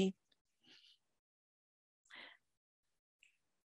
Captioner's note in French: silence